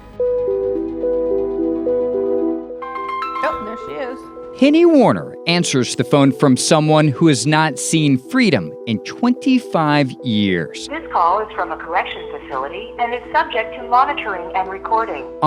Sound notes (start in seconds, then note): 0.1 gentle music; 2.8 ringtone chimes